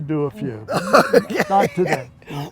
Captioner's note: laughing